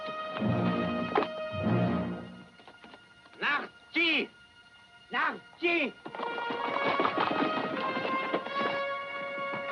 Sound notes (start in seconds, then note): 3.8 Delgadito hablando idioma extranjero; 6.1 música dramática